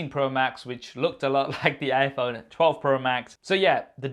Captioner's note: chuckling